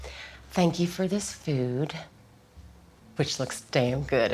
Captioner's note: sighs